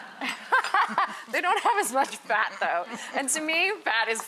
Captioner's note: audience laughs; laughs